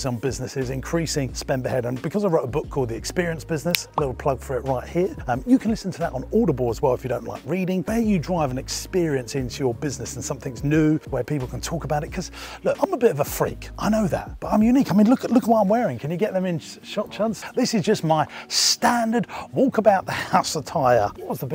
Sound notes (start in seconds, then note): 3.7 clicks fingers